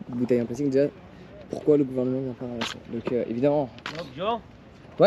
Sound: speaking in foreign language

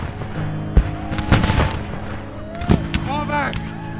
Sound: guns firing; men shouting

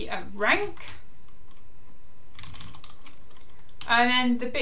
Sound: keyboard clicking

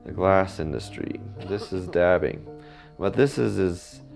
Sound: man coughing

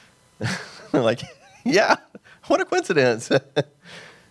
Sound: laughs

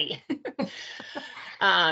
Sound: both laugh

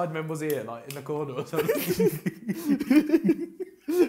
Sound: laughs

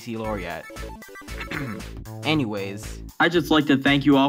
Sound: clears throat

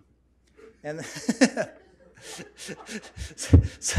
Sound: laughs

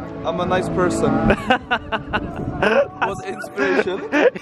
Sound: laughs

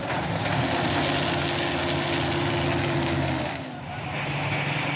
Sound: engine roaring

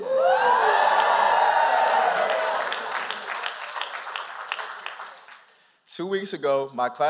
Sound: applause

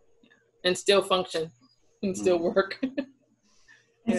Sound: laughs

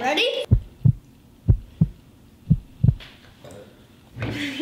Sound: heart beat

